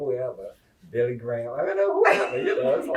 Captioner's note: laughter